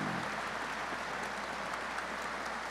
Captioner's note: applause